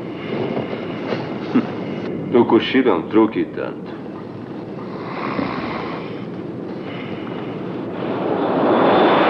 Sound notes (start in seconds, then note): 4.8 continues Snoring